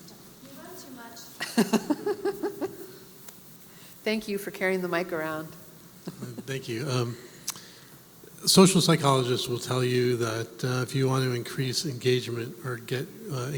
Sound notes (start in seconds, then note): 2.9 laugh